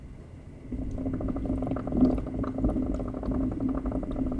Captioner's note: rapid bubbling rises